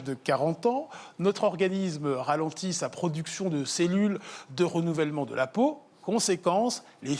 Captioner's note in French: none